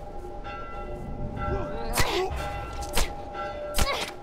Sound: bell ringing

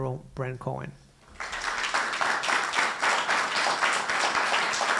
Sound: applause

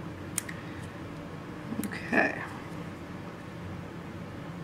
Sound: clipping sounds

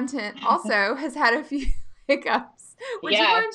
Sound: laughing

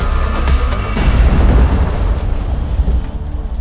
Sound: explosion and destruction of hive

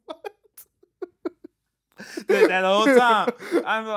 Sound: laughing

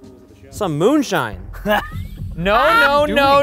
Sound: laughing

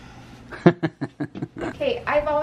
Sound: laughs

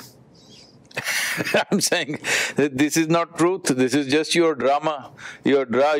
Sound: laughs

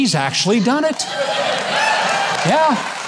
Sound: audience laughing

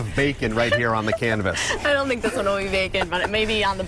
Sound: laughter

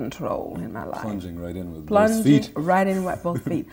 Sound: murmurs

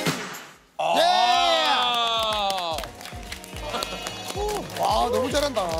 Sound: can't help but applause

